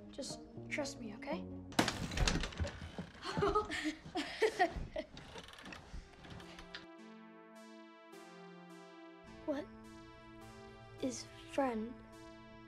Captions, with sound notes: Just trust me, okay. (laughing) - What is friend?